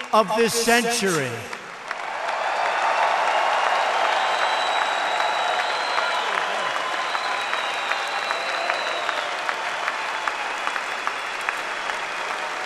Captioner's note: applause